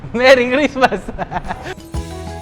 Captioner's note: laughs